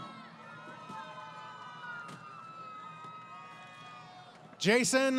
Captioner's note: crowd Cheering